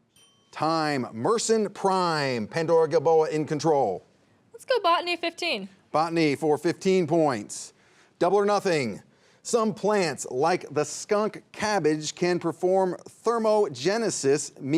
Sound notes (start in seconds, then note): 0.0 bell dinging